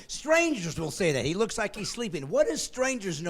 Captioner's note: laughing